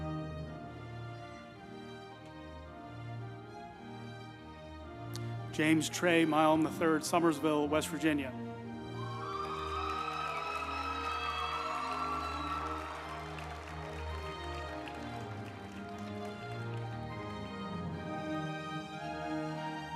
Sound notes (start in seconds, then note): 8.8 group applauding; 9.5 uplifting music